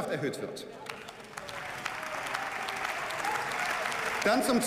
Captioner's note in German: Beifall